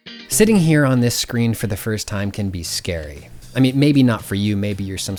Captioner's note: pat